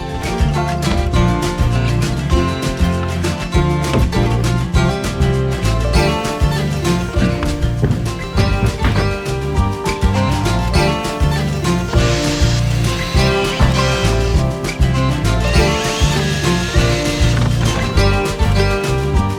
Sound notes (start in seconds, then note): 7.8 the sound of gravity being a *&^%; 11.1 muffled drilling